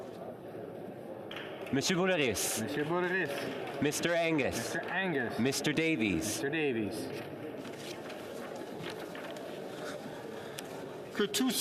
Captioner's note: calling of recorded vote